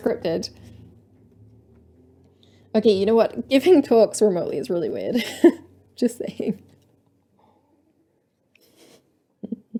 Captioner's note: laughter